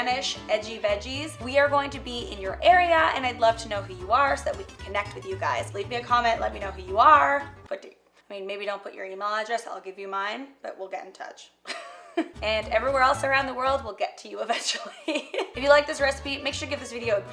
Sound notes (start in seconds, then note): 11.7 laughs; 14.8 laughs